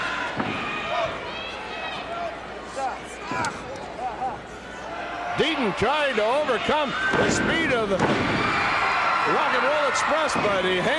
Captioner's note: crowd chatter